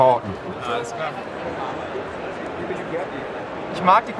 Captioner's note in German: Stimmengewirr